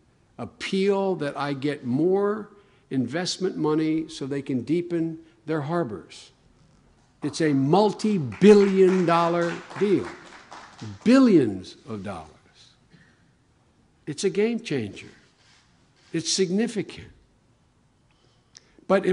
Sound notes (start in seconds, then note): 7.2 applause